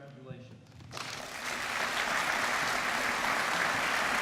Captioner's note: applause